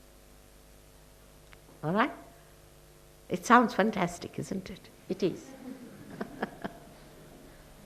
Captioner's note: shri mataji laughs